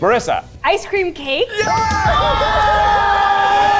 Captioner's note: screams